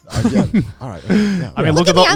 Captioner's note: everyone laughing